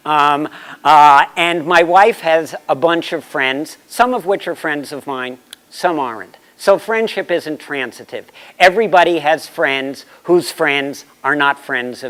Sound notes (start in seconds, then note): none